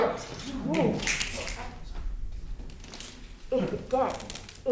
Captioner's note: all snapping